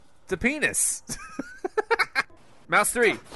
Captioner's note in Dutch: gelach